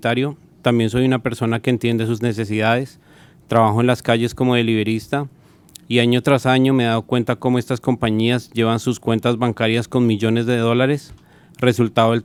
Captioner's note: speaking spanish